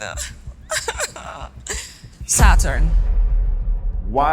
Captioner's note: laughs